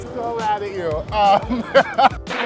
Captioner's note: laughing